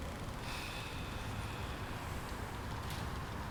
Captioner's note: Chris sighs